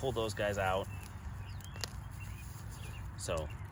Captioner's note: birds chirping